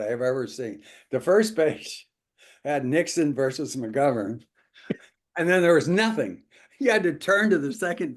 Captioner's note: laugh